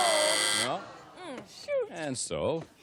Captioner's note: buzz